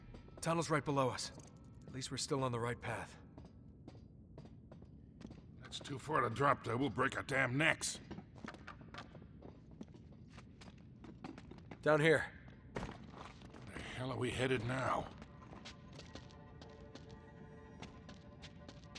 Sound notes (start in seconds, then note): none